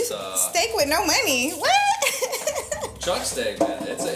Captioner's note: laughs